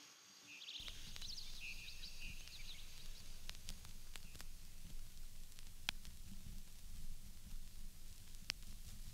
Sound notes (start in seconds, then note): 0.8 audio crackling